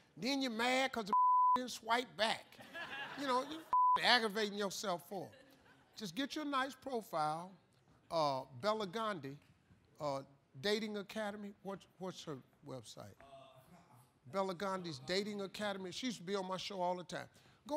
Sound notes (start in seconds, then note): 2.5 laughter